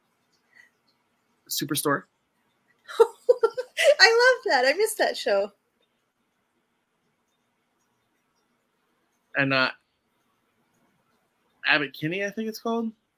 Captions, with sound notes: Superstore. - (laughs) I love that. I miss that show. - And Abbot Kinney, I think it's called.